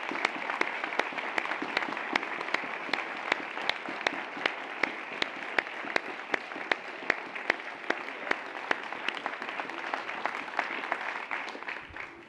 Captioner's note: applause